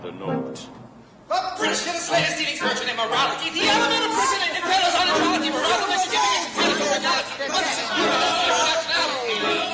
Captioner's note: british, Dutch, American Admiral cacophony